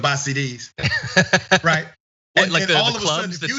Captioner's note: laugh